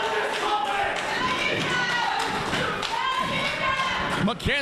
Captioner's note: audience cheering; audience scattered clapping